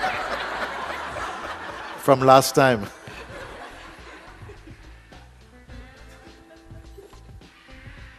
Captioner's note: laughter